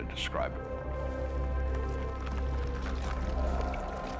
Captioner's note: crackling